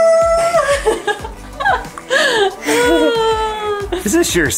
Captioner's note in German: lacht